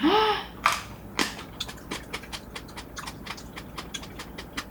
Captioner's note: crunch